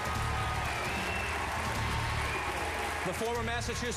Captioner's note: applause